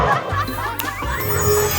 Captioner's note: snap; magic wand swooshes